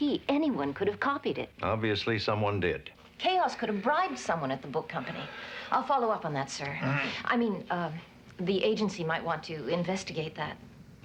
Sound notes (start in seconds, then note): 6.7 clears throat